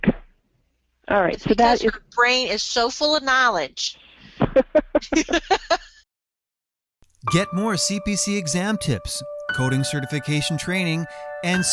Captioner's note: laughs